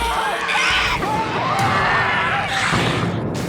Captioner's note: wood shatters; both screaming